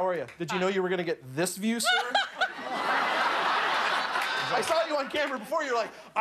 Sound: laughter

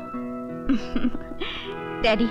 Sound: chuckles

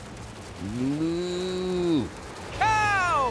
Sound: mooing

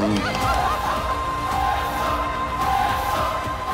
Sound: cheering

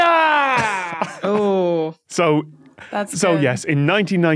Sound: wheezes

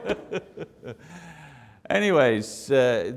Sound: all laugh

